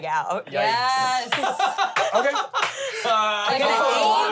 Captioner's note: laughs